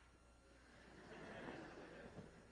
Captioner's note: laughter